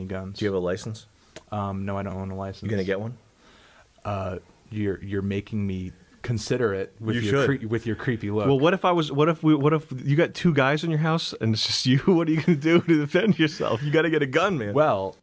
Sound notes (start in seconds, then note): 9.7 stutters; 12.0 chuckles